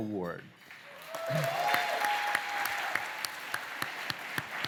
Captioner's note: cheering, applause